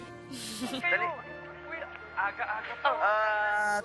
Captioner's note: giggles; busy chatter